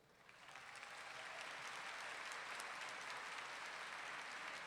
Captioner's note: audience clapping